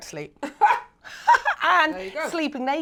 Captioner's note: laughs